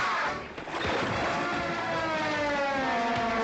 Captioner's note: exclaiming